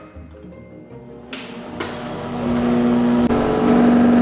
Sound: microwave buzzing

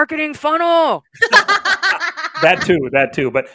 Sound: laugh

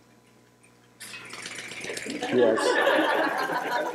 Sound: quick rattling; laughter

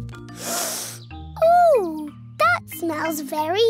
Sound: sniffs

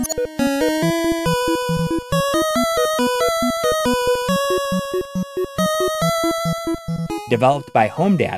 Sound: game audio

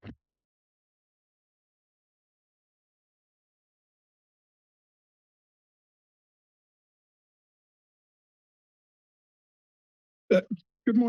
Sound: silence

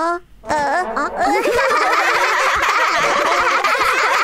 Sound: laughs loudly

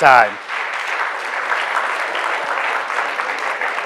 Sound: applause

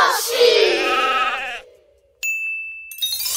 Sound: sheep bleat

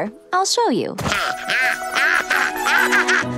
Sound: laughing

